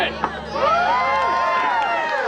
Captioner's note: all cheering